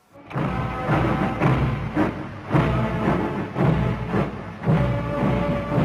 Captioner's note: rhythmic footsteps over rousing orchestral music